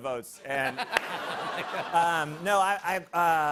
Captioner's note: laughter